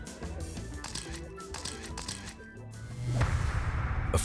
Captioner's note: camera shutter clicks